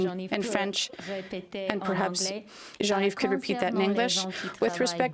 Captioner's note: speaking french